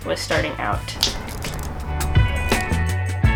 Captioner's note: snaps